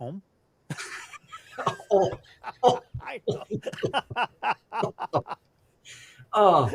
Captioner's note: laughs